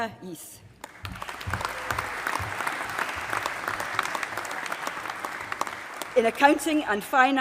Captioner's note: applause